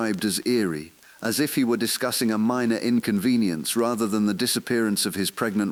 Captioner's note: exhale